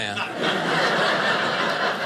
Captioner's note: audience laughing